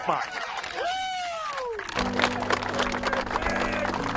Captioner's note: spectators cheering